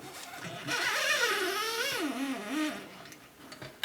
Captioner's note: restless whirring as the strings are threaded